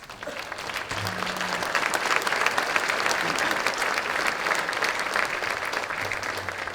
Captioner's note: applause